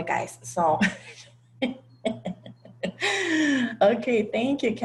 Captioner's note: laugh